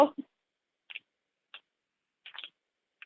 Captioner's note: silence